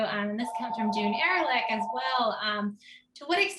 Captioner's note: phone ringing drowns out speaker